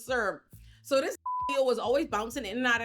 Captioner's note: beep